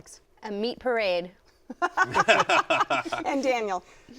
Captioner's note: laughter